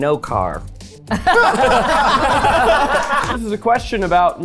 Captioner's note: everyone laughing